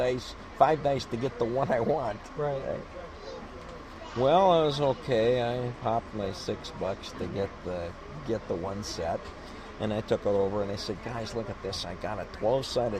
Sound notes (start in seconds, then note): 1.5 laughs